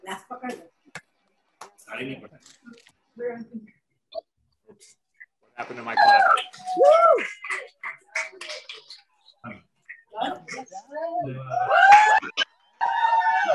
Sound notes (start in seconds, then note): 6.6 cheering